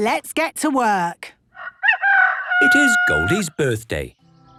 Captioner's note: rooster crowing